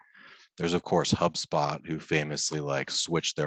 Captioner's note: laughs